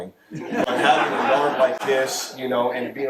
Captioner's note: audience laughs